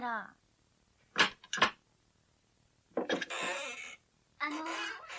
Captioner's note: SFX: door opening